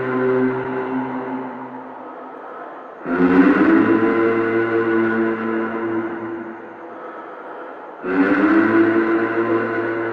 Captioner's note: humming sound